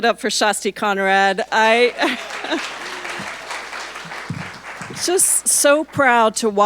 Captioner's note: audience applauding